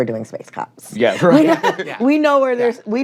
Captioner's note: chuckling